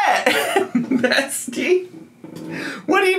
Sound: chair scraping

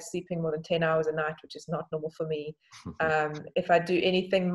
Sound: giggles

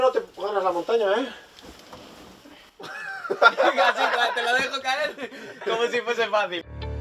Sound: laughing

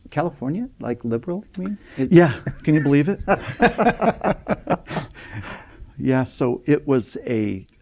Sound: laughing

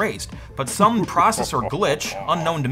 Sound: evil laughing

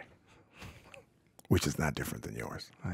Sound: chuckling

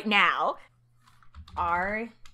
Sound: typing

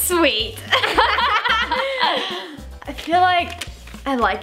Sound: laughing together

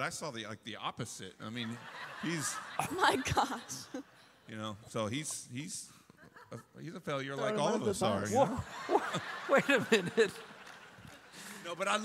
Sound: laughter

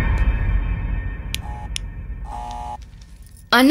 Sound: door bell rings

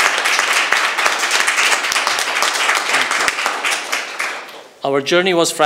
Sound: applause

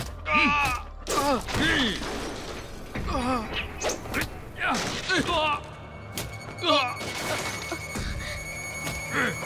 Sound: fighting sound

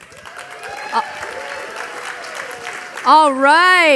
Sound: audience applauding

